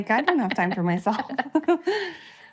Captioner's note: chuckling